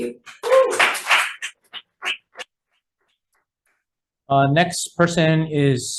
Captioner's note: constituents clapping